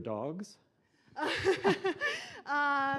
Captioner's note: laughing